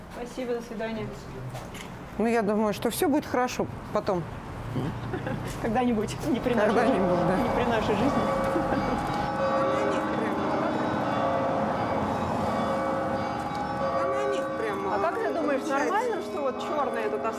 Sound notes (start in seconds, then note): 11.0 church bells ringing